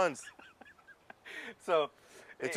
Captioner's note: laugh